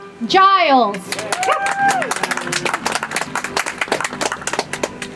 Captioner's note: audience applauds